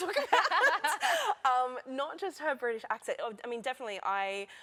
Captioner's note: laughter